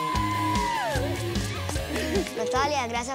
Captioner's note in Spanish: exclamaciones